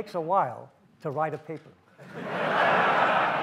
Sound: audience laughs

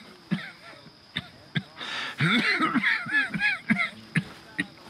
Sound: Hosea coughs

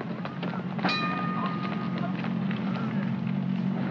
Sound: footsteps scrambling; station bell dings; rumbling sound

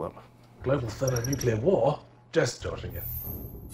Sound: voiceover

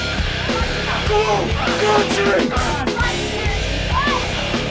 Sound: intense music; on-lookers yelling

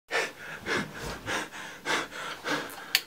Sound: heavy breathing

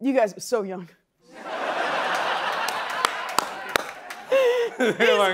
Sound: laughter

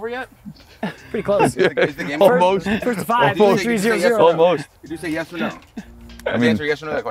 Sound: laugh

